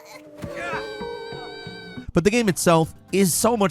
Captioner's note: screaming